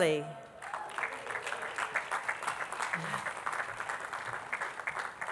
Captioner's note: attendees clapping